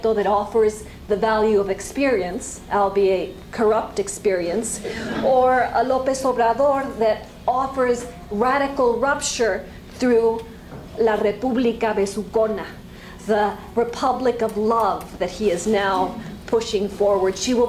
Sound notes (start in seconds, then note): 10.8 spanish